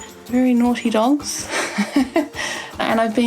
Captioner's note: laughing